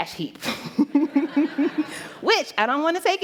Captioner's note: laughter